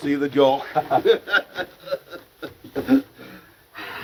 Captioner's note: both laughing